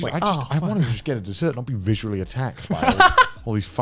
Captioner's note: laughs